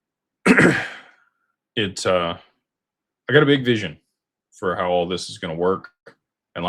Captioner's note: clears throat